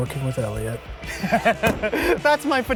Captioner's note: laughing